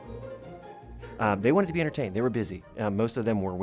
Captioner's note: voiceover